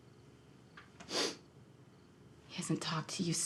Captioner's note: Isaac sniffles